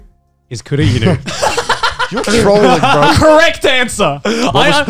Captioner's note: laughs